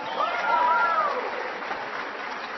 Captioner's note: applause